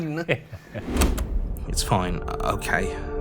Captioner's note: laughs; ominous music; tape clicks